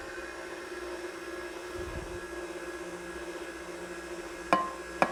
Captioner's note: stand mixer whirring